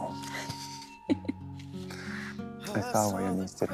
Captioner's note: Lynn laughs